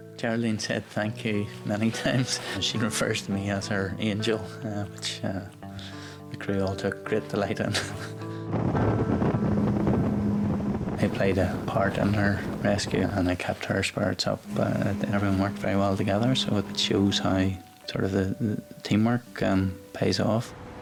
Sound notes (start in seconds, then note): 8.7 wind buffets